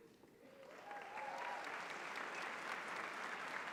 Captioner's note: applause